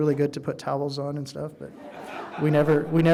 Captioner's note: audience laughing